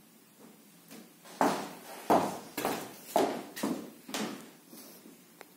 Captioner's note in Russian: шаги